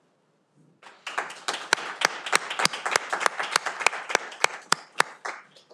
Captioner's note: audience applauding